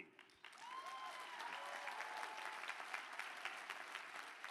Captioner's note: applause